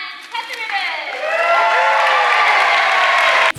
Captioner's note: cheering